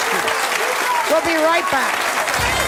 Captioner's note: cheers and applause